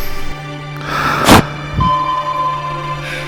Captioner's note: sigh if despair